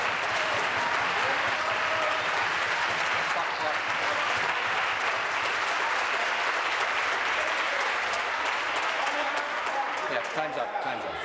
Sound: applause

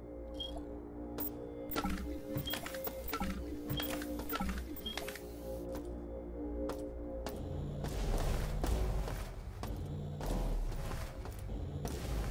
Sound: footsteps

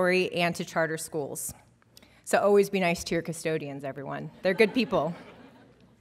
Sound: laughter

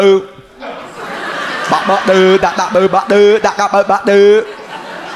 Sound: random vocal noises

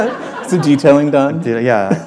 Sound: laughter

